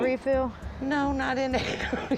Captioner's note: laughing